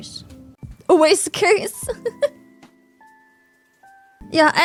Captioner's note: laughs